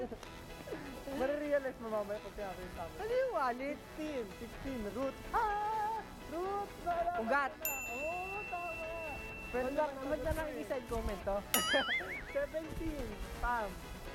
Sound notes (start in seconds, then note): 11.6 laughs